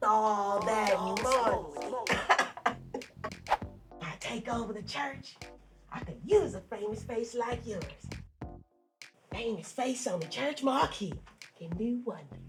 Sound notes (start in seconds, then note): 2.1 devious laughter